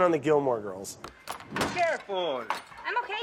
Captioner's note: smacking